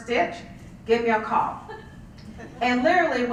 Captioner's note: laugh